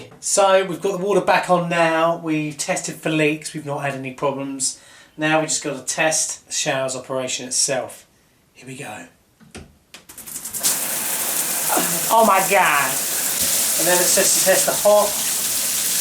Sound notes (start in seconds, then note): 10.3 water running